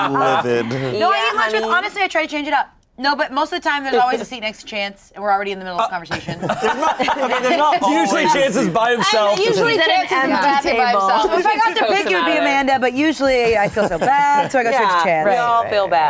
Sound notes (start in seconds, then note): 0.0 everyone laughs; 6.5 scoffs